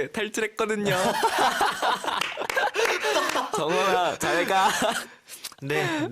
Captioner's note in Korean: 웃음